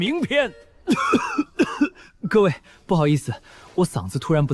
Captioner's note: cough cough cough